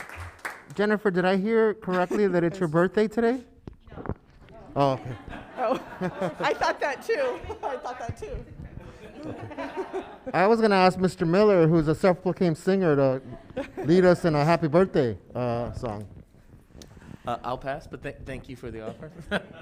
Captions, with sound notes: Jennifer, did I hear correctly that it's your birthday today? (laughing) - I thought that too. I thought that too. (chuckles) - I was gonna ask Mr. Miller who's a self-looking singer to lead us in a happy birthday song. - I'll pass, but thank you for the offer.